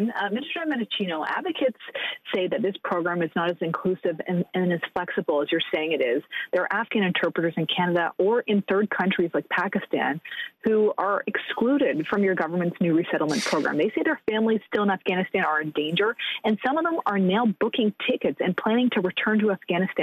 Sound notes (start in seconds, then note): 3.5 speaking French